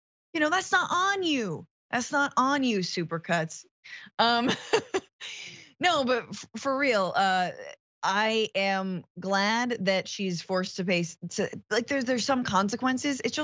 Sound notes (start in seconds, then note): 4.4 laugh